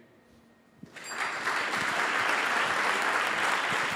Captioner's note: applause; bell dings; applause